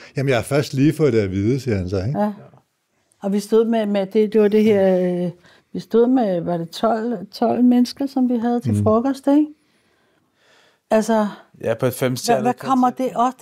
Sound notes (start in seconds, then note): none